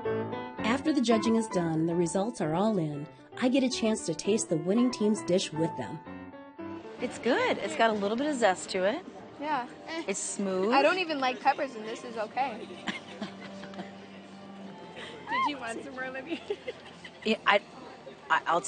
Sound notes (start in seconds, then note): 1.9 voiceover; 12.6 laughter; 16.3 laughing